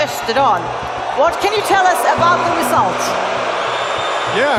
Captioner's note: audience booing